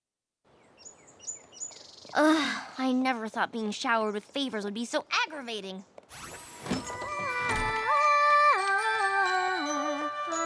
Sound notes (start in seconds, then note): 2.1 sighs; 6.2 humming